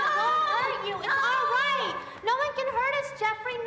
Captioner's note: Jeffrey shouting